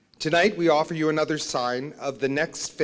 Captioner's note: none